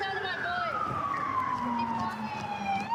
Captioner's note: sirens